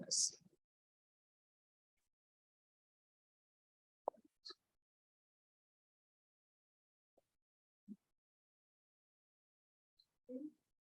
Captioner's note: silence